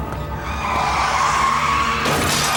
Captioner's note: tires squealing; crashing